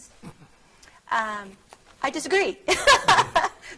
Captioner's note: laughing